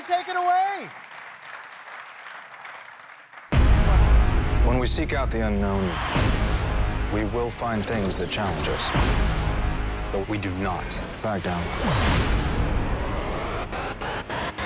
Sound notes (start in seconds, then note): 3.1 applause